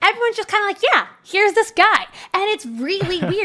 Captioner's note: chuckles